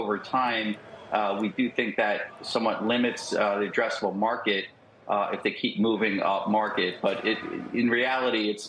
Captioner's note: cheers